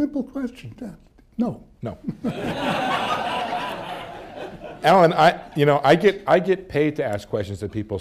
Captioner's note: laughter